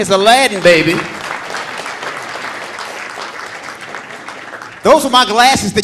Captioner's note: audience applauding